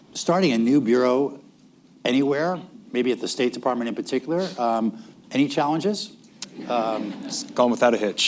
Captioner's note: laughter